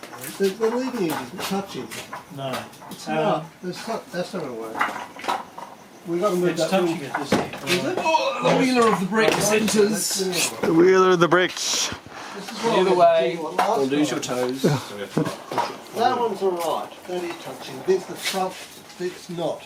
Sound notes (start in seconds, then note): 12.5 chatter